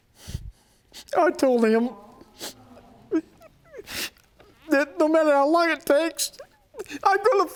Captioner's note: sobbing